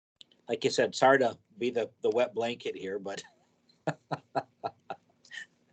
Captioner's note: laughs